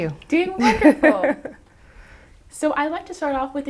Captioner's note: chuckles